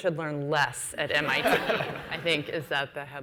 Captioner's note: laughs